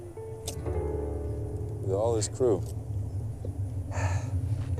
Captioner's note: sighs